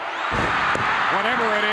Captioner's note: crowd cheers